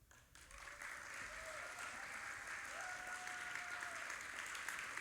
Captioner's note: audience applauding